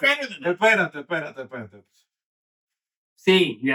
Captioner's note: speaking In Foreign Language